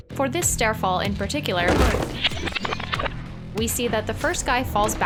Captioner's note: ground hitting